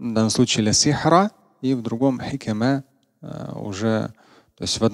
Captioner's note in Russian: говорит на арабском